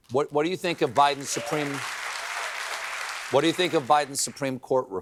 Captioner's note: applause